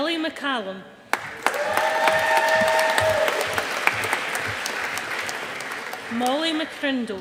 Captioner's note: audience applauding